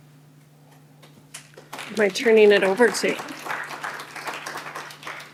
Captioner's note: applause